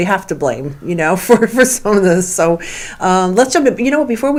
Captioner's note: laughs